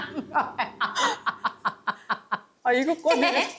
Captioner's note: laughter